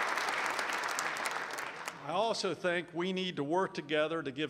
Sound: applause

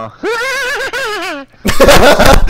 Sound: proceeds to laugh like a goofy 80's clown

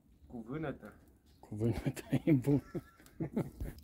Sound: laughing

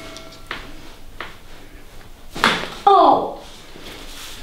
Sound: the girl screams after massage

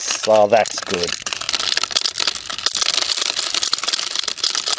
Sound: tinkling

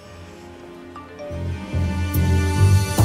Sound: phone chime; on phone

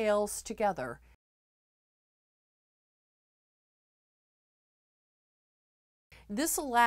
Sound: no Sound Present

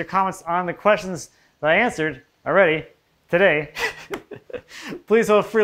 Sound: laughs

